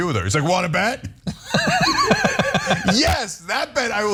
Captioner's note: laugh